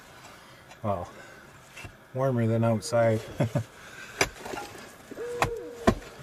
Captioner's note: laughter